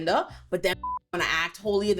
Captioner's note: beep